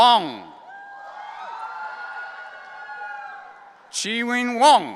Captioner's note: audience cheering